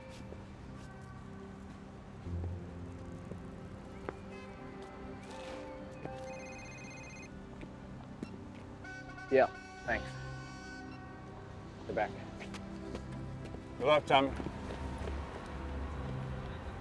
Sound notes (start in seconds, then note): 6.1 phone rings; 8.8 horn blowing